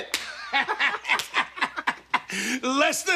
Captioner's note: both laughing